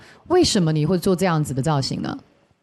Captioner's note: confident